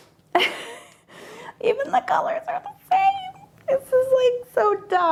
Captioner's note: chuckles